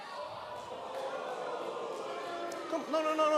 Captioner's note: cheers and boos